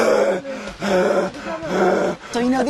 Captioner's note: heavy breathing